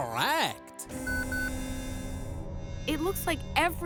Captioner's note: machines beeping